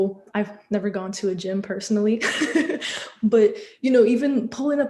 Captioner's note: laughter